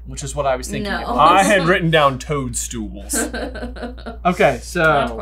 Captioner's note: laughs